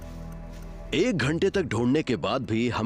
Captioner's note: narrating